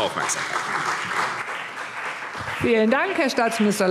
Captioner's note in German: Beifall CDU und BÜNDNIS 90/DIE GRÜNEN